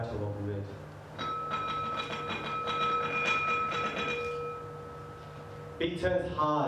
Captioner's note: glass lid rattles